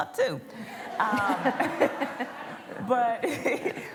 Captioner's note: laughter